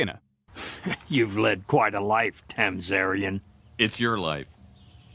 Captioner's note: chuckles